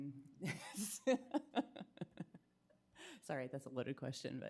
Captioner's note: laughing